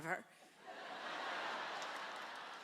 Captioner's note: laughter